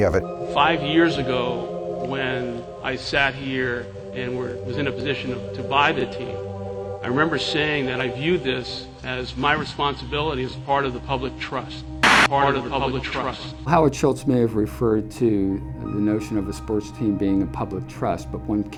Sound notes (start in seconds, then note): 12.0 echoing